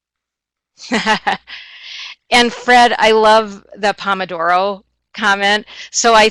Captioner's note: chuckles